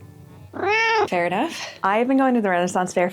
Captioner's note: meow